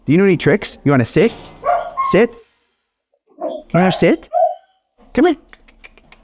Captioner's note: clicks tongue